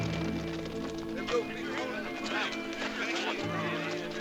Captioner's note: indistinct chatter